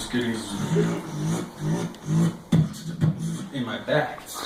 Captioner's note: zapping sounds